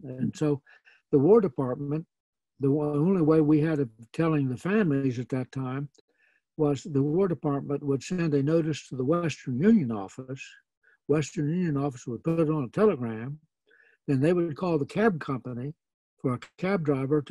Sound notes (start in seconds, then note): none